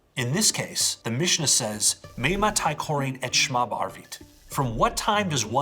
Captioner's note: speaking in foreign language